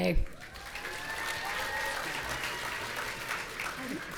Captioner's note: audience cheering